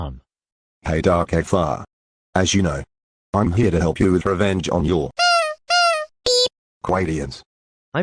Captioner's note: beep